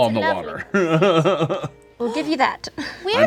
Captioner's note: laughing